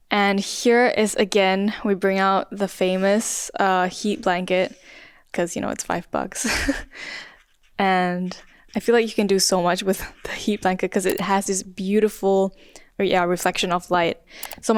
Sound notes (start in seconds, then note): 6.4 chuckles